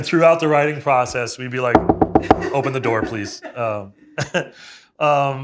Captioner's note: knuckles rapping